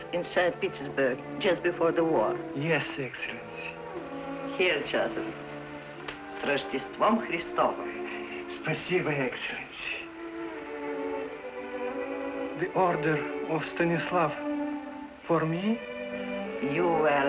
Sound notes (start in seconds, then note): 6.6 speaks in russian; 9.2 speaks russian